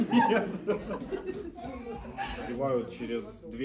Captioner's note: laughter